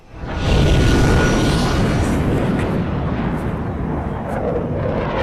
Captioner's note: explosive whirring of jets